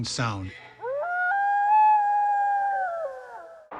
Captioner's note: wolf howling